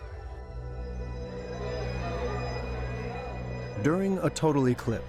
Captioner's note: people talking in background